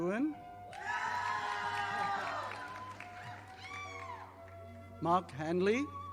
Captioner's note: audience applauding